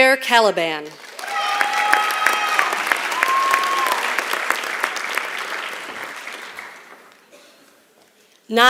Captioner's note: applause